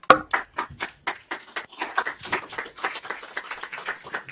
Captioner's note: applause